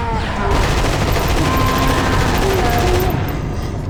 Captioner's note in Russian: пылкий рататат